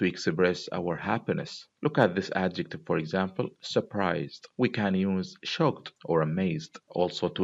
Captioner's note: surprised